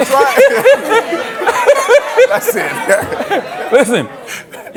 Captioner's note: laughing continues